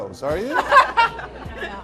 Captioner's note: laughs